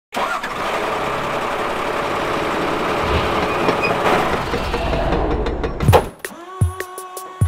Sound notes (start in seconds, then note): 0.1 truck starting; 4.0 hammering, drilling